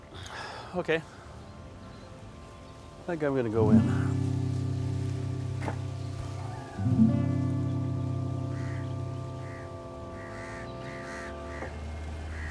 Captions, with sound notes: - Okay, I think I'm gonna go in now. [birds cawing]